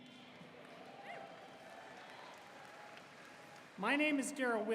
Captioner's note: audience cheering